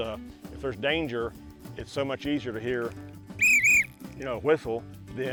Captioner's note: whistles